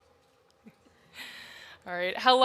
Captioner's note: moderators chuckling